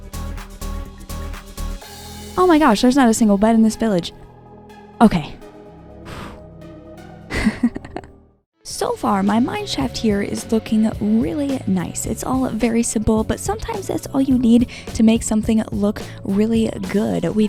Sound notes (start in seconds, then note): 6.0 sigh of relief; 7.3 laughing